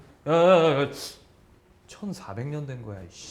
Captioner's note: inhales